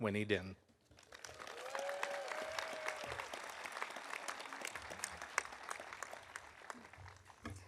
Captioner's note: audience applauding; audience cheering